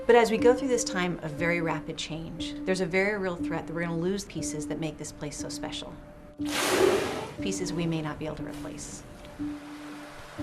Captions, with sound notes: but as we go through this time of very rapid change, there's a very real threat that we're gonna lose pieces that make this place so special, (whale expelling air) pieces we may not be able to replace.